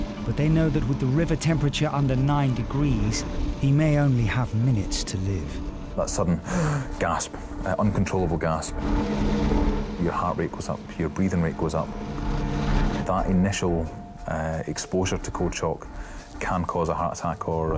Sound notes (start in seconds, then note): 6.4 gasps; 8.9 suspenseful instrumental music